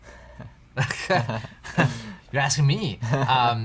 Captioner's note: chuckling